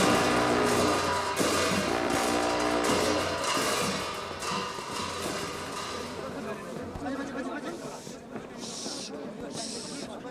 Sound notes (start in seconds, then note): 4.0 monks Chattering; 7.6 hissing